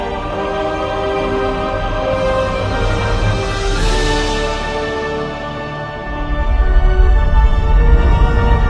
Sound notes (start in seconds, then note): 1.5 shockwave intensifies